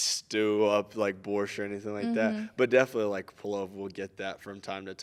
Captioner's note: speaking in Russian; speaking in Ukranian